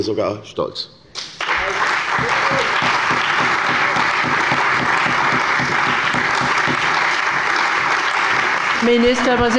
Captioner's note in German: Lebhafter Beifall bei der CDU und dem BÜNDNIS 90/DIE GRÜNEN